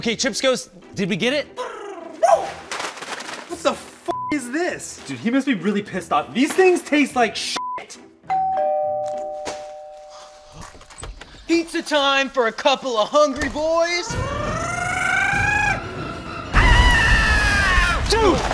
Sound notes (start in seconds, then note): 2.2 snarls; 4.1 beep; 7.6 beep; 8.3 doorbell rings; 13.4 suspenseful music; 14.3 Chips Ghost snarls; 16.9 Chips Ghost shouts